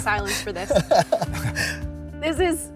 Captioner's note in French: Rires